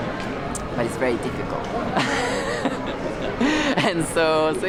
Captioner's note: laughs